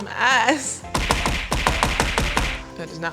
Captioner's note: punching noise